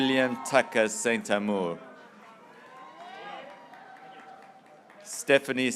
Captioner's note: graduates cheering